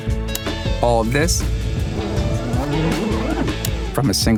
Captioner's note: tape whirring